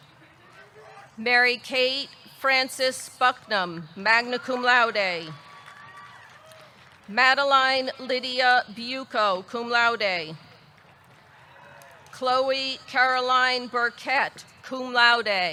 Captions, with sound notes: MaryKate Frances Bucknam, magna cum laude. (audience cheering) (audience clapping) Madalyne Lidia Buco, cum laude. Chloe Caroline Burkett, cum laude.